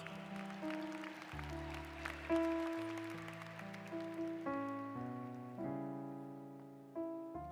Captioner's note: applause